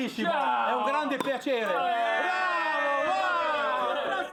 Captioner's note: both speaking Italian, all cheering